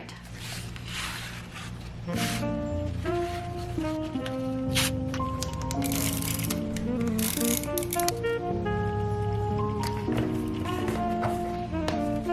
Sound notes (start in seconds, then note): 0.3 paper scratching; 2.8 gentle jazz music; 6.4 plastic clicking; 9.1 gentle jazz music